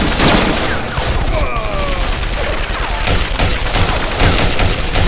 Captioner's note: guard groans